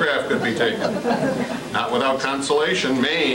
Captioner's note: laughter